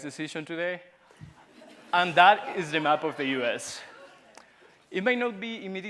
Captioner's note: laughter